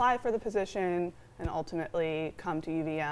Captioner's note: none